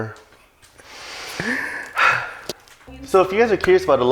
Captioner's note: sighs in Filipino